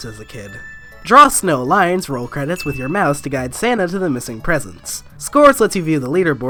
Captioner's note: ding